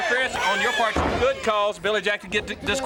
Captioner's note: crowd chatter